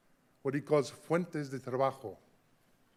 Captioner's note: speaking in a foreign language